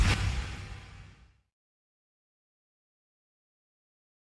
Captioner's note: whoosh